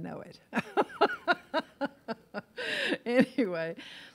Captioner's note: laughs